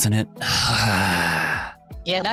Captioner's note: groans